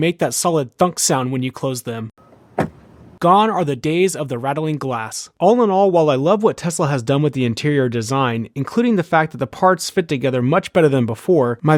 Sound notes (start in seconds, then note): 2.4 thunk